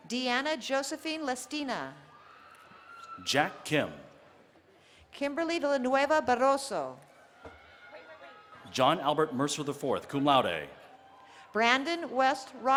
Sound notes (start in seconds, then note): none